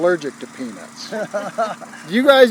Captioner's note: laughing